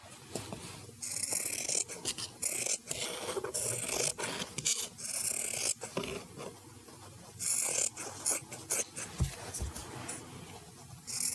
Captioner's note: cutting fabric